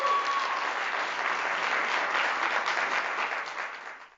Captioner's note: applause